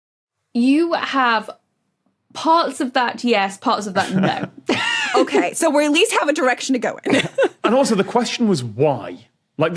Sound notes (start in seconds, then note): 4.0 laughs; 4.0 chuckles; 7.0 chuckles